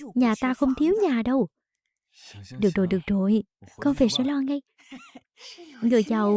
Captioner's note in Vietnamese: tiếng cười